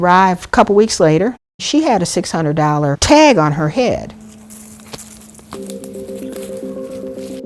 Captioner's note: bush rustling; tense music